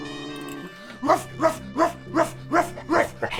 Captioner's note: homeless man barks; shark laughs